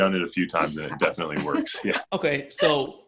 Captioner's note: laughs